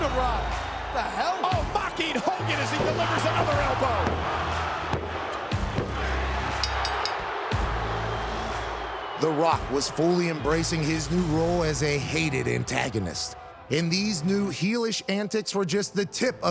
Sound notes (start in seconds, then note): 4.5 crowd murmuring; 4.5 tense music; 6.6 bell ringing; 6.9 crowd booing